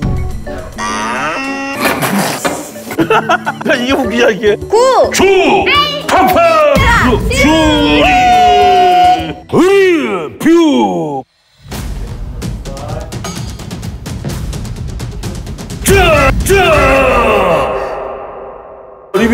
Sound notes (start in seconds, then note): 2.8 laughing